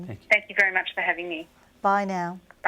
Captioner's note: voiceover